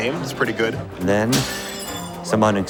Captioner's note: glass shatters